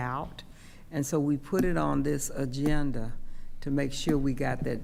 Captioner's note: tapping table